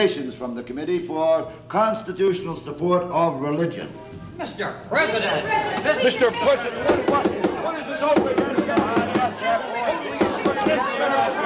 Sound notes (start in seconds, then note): 5.0 confused shouting; 6.7 gavel pounding